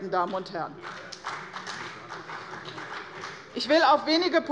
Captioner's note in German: Beifall bei der CDU und dem BÜNDNIS 90/DIE GRÜNEN